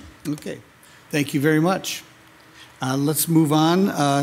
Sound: none

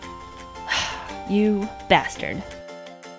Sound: sigh

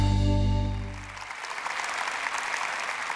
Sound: applause

